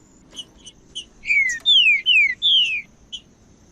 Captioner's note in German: trinca ferro cantando